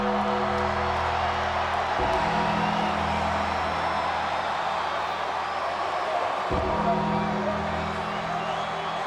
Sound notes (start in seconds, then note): 0.0 ominous music continues; 5.2 audience cheers